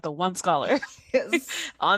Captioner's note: laughter